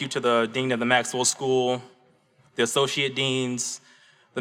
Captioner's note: none